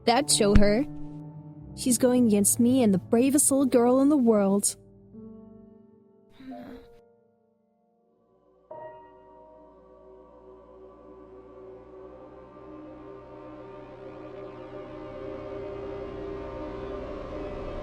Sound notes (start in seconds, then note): 6.5 snoring